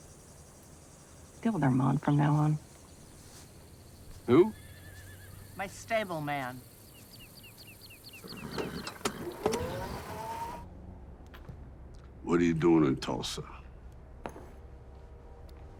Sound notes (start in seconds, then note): 4.5 horse whinnying; 7.1 bird chirping; 8.2 horse nickering; 8.6 motor whirring